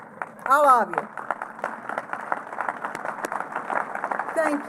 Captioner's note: applause